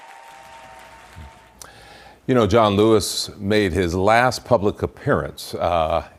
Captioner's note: cheers and applause